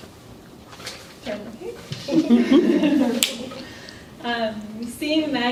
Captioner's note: laughter